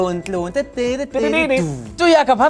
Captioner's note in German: Er summt eine Melodie